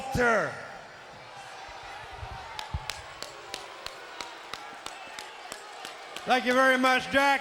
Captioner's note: crowd chattering; Jack clapping